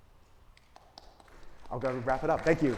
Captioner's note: audience claps